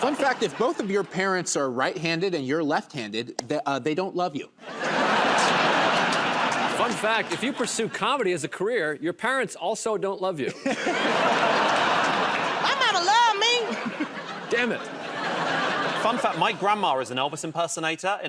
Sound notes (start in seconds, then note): 4.6 laughter; 10.5 laughter and applause; 13.2 laughter